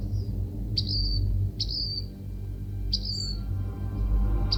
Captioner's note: bird chirping